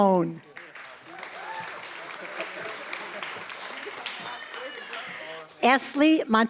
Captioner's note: applause